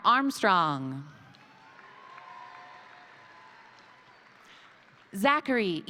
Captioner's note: crowd cheering; crowd applauding